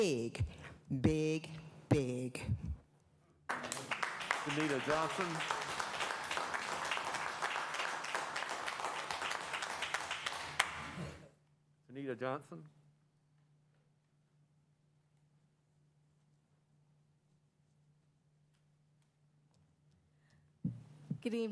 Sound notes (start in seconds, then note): 9.0 applause